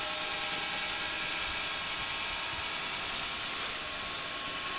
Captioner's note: saw whirring